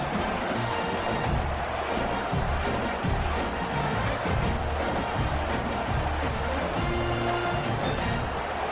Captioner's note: crowd Noises